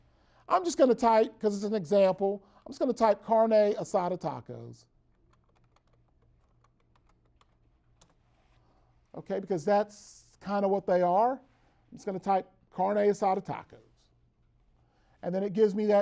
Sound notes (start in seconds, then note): 5.1 keyboard typing